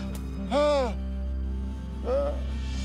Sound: groans

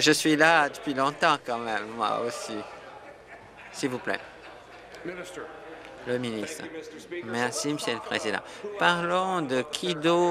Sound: conversation din

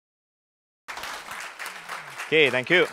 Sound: applause

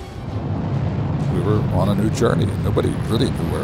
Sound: rocket engines roaring

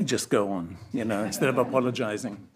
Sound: audience laughs

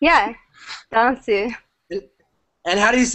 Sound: japanese

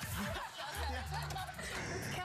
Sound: laughter

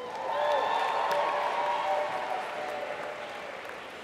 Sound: applause

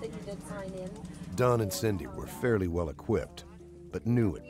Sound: voiceover

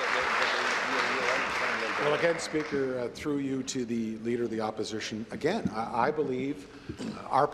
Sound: applause

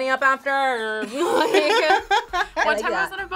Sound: both laugh

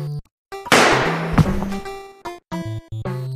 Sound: gunshot

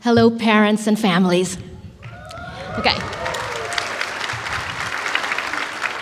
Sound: applause

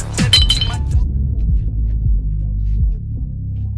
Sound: bottle falling

